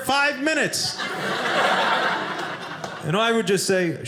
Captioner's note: audience laughing